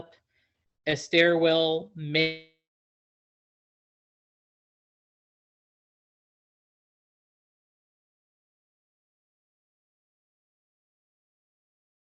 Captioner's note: silence, technical difficulties